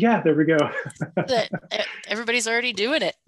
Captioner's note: laughing